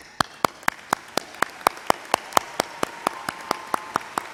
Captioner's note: crowd applauds